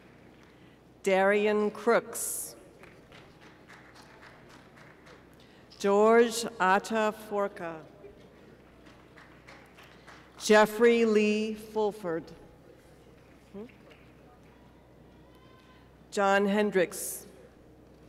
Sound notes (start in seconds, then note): 15.1 applause